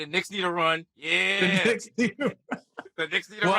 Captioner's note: laughing